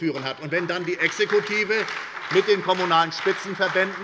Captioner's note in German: Lebhafter Beifall bei der SPD